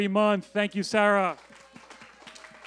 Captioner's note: applause